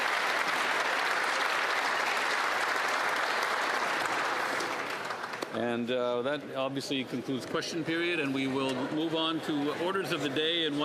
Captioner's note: applause